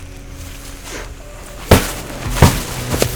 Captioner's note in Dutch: Puñetazos